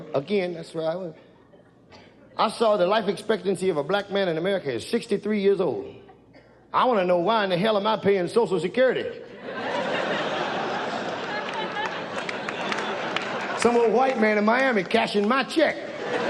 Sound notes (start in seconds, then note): 9.3 audience laughs